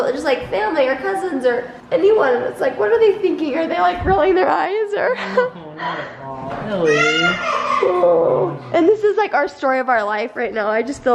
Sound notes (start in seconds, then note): 6.8 cries